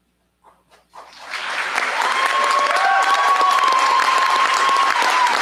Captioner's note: cheers, applause